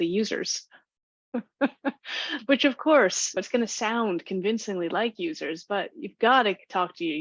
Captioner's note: laughs